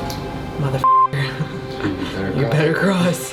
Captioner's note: beeping